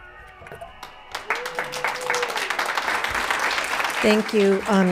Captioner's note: applauds